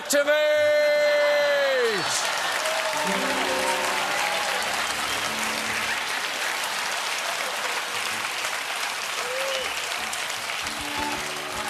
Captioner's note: cheers and applause